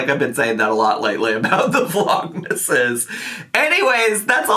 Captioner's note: laughing